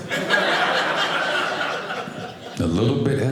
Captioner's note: audience laughing